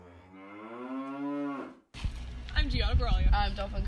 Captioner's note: mooo sound